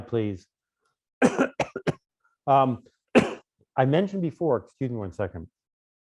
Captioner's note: coughing